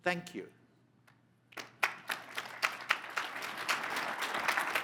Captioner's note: crowd applauds